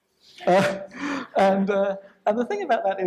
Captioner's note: laughs